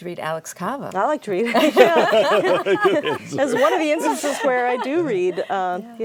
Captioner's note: laughter